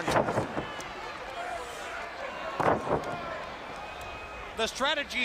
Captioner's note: crowd chatter